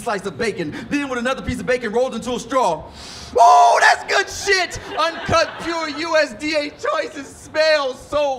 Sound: inhales

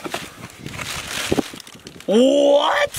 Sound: paper crinkling

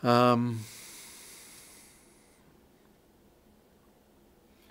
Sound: breathes deeply

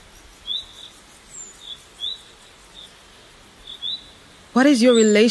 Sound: sounds of a forest. Birds chirping

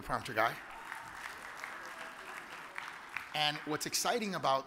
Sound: audience applauds

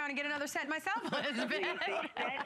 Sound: laughter

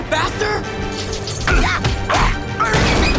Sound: grunting; screaming

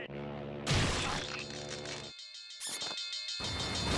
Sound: alarm ringing

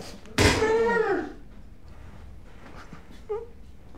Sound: loud thwack; agonized groan; whimpers

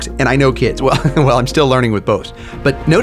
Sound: laughs

